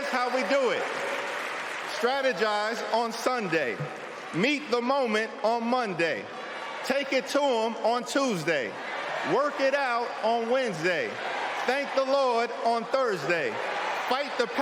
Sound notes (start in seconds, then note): 2.1 cheering